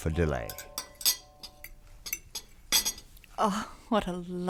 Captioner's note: silverware clinking